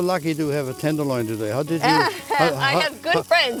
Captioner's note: laughs